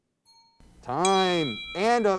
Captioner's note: ping